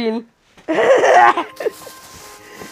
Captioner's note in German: Lachen